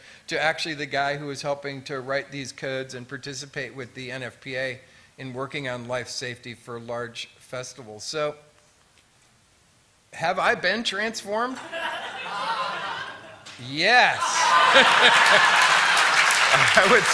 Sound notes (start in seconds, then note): 11.5 laughter; 14.2 applause